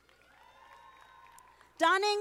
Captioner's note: audience applauding